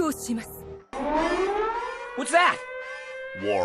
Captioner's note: japanese war declaration noises; alarm sounds